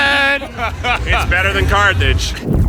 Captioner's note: Eugene laughs